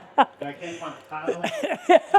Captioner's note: laughing